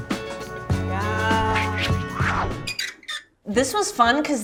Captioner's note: logo whooshing, squeaking